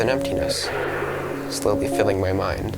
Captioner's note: bang